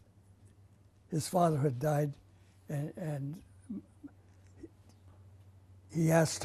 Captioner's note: pauses for 3 seconds